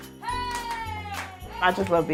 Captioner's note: clapping